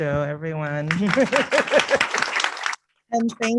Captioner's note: applause